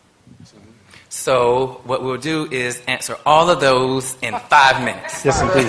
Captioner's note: laughter